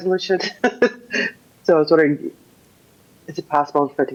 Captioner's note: laughter